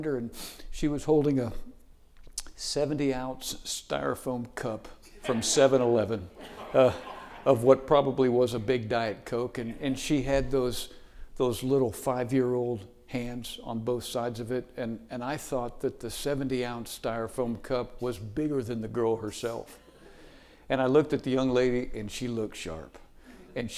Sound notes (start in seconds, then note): 5.2 audience laughing